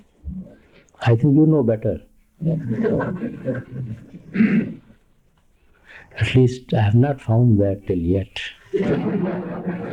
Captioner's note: laughter